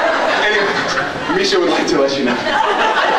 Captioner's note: laughing; laughs